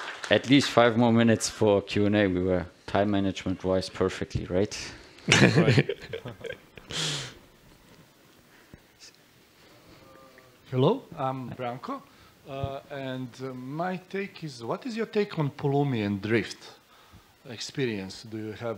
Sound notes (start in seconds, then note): 5.2 laughs